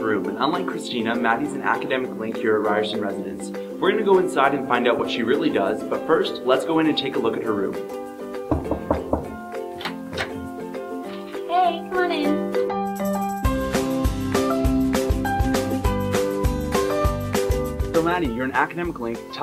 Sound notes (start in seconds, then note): 8.5 knocks